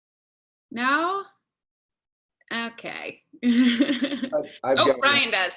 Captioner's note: laughter